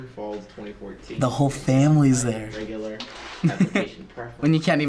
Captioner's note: chuckles